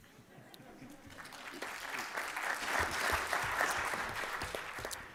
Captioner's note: applause